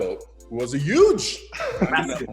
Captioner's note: laughs